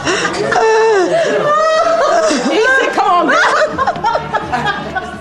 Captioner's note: laughter